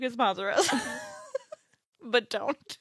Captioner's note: laughs